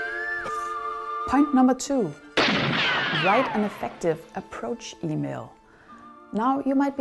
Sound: sound of gunshot

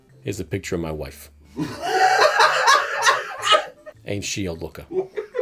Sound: laughter

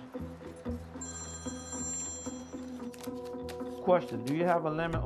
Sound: phone rings

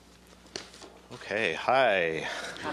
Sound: laughter

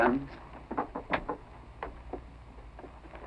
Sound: knocking

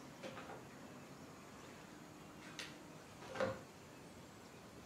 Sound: flipping pages

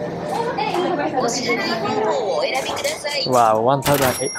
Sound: register speaks in japanese

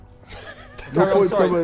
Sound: Sidemen laughing

